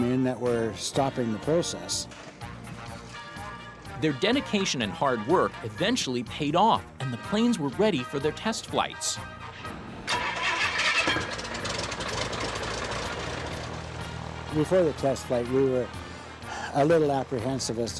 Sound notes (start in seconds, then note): 10.0 engine starting